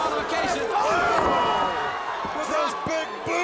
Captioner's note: crowd cheering